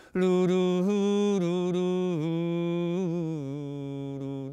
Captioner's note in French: Chanson fredonnée